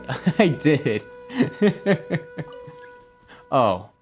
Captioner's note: laughs